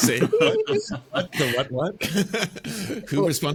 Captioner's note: laughs